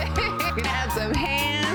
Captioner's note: laughing